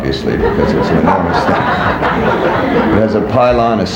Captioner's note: people laughing